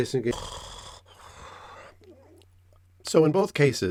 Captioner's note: snore